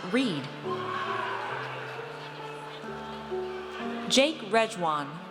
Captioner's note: audience cheers